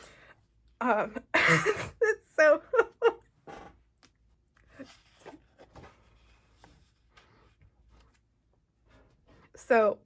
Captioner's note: laughs